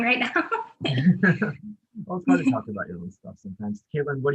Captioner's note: laughs